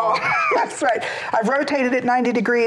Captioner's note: laughs